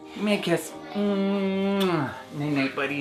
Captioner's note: smooch